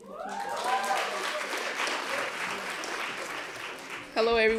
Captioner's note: applause